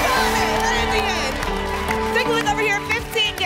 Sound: applause and cheering

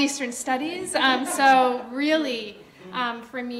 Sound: audience laughter

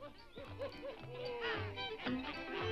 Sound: toys whooping

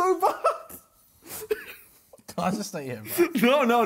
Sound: laughs

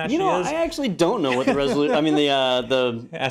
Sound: laugh

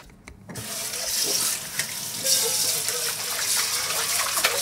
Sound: water running

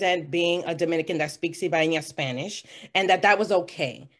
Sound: foreign language

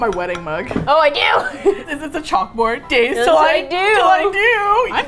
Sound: laughs

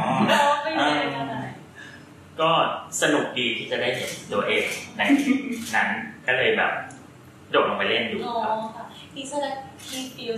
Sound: answering in Thai

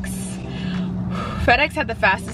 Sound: breathes in and out

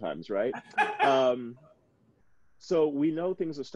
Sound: chuckling

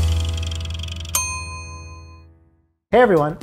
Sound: bell dings

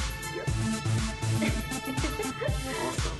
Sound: laughs

